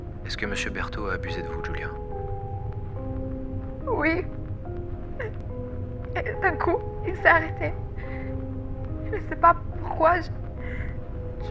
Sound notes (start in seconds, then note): 5.2 Giulia, sobbing, recording; 6.2 Giulia, voice trembling, recording